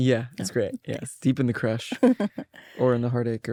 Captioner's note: laughs